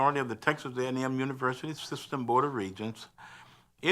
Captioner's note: none